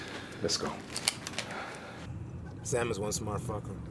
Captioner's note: gun cocks